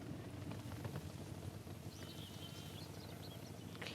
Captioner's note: the sound of a motorcycle in the distance